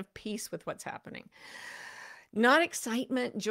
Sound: deeply inhales

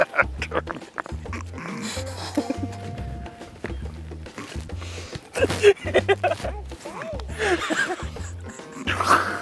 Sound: laughs

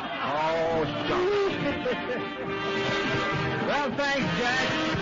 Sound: laughter; laughing

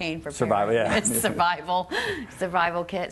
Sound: laughing

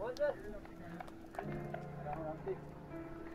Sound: clapping

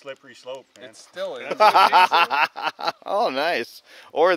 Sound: laughing

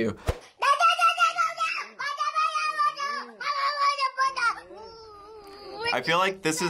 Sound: baby yelling

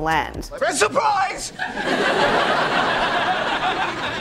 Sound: background laughter

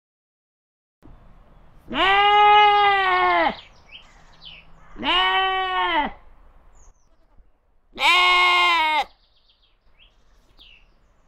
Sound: sheep bleat

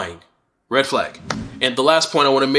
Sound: swooshing sound

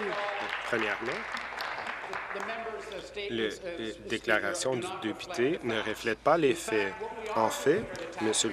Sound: applause

